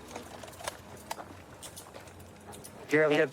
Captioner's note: handcuffs clicking